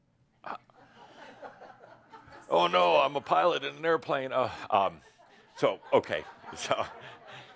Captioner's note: some laughter; more laughter